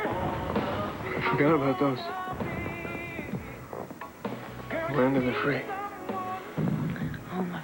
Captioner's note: fireworks explode